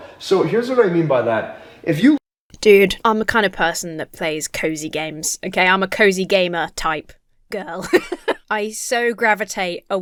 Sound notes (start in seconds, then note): 7.7 laughs